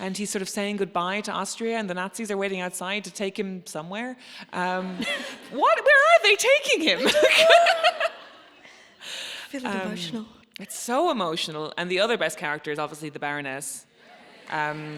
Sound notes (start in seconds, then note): 6.9 laughs